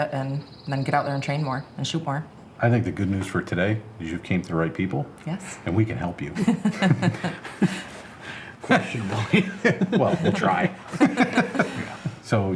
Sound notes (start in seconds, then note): 6.2 laughs; 6.3 all laughing